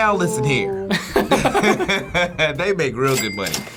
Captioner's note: both laugh